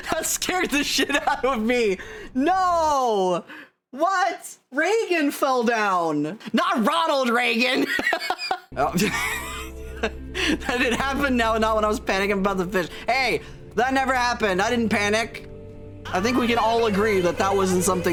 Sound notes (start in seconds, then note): 7.8 laughs; 9.0 wheezing laugh